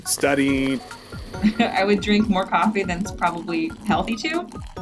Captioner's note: chuckles